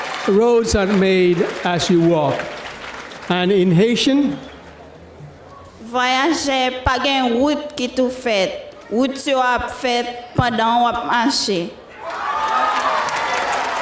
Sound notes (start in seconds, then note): 6.0 speaking in foreign language